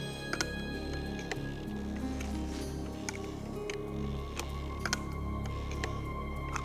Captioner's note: chair creaking; eerie music